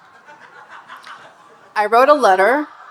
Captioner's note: audience laughing